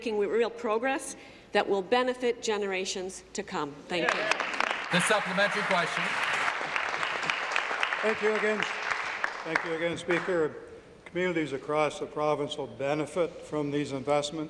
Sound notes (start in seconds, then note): 7.6 applause